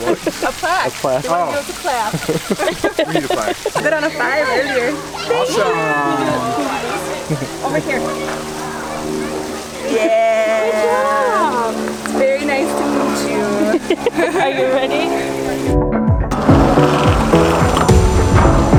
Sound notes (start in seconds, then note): 3.4 laughing; 6.5 laughing; 13.4 laughing; 15.5 upbeat music